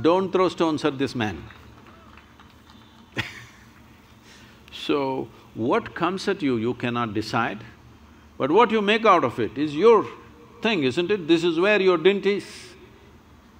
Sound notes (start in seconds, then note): 1.3 applause; 3.1 laughs